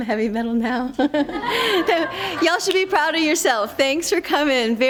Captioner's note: laughter